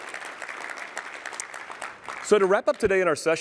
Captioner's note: applause